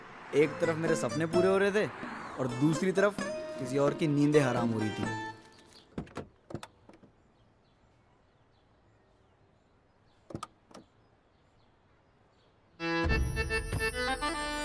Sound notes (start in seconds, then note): 5.7 car door opens; 12.9 car door closes